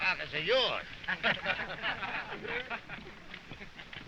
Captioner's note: all laughing